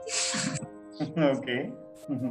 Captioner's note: both laugh